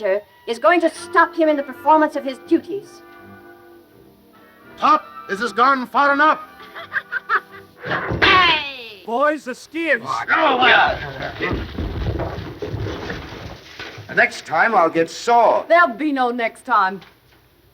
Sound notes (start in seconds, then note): 6.2 all laughing; 10.2 men clamoring